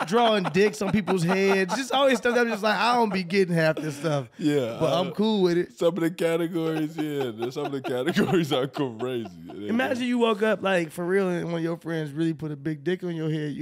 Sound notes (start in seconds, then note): 6.5 laughing